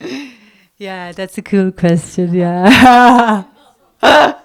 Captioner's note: laugh